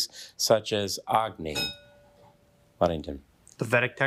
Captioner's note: bell dinging